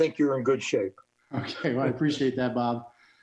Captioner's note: chuckles